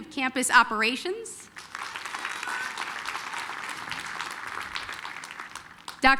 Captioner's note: applause